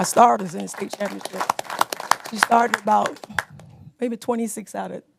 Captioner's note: applause